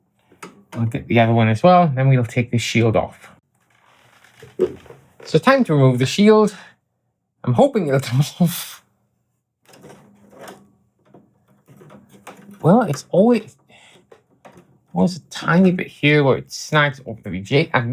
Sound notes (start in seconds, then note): 8.9 footsteps